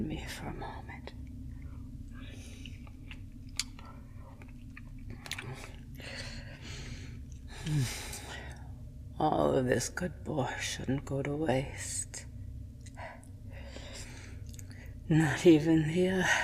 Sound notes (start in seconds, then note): 4.2 eating noises